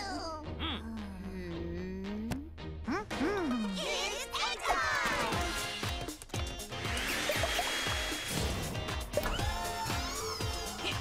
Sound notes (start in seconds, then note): 5.7 upbeat music; 6.8 vacuum whirring